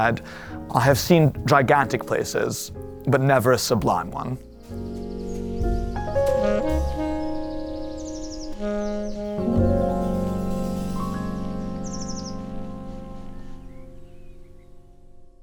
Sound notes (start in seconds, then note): 5.4 birds chirping; 6.4 gentle music